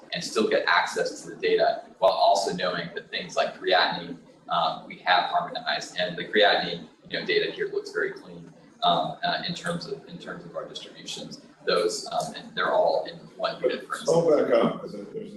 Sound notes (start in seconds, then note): none